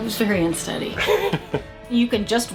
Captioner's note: laughing